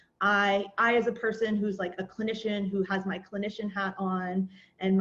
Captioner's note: none